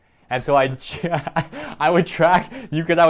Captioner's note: laughs